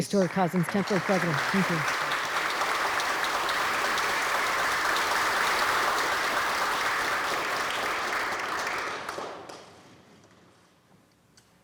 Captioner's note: applause